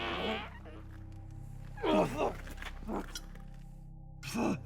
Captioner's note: Igor groaning